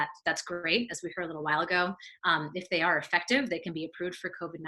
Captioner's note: none